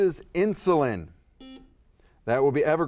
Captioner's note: buzzer beeping